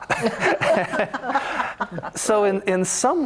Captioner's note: chuckles